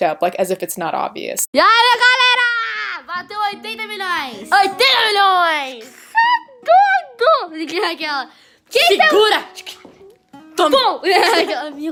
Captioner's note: kids yelling in Portuguese